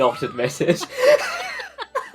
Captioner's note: laughing